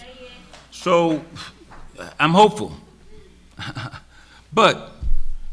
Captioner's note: laughs